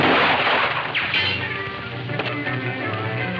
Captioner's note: guns firing